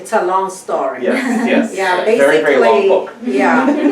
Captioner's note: laughs; laughs